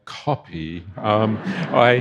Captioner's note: audience laughing